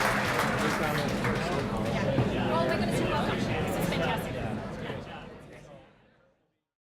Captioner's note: applause; general chatter